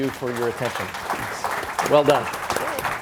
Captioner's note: audience applauds